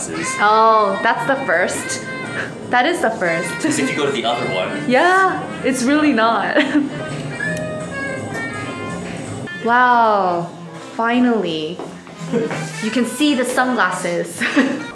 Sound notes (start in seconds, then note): 0.1 scoffs; 4.8 whispers: it's so extraaa